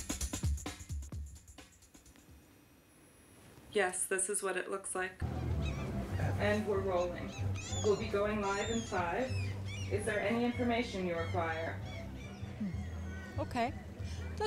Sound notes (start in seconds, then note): 3.8 voiceover